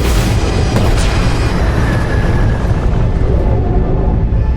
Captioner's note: systems drone; sparks crackle; energy whooshes